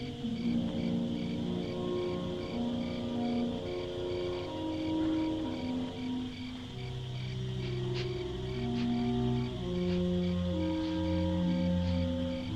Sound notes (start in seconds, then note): 7.6 sniffing Continues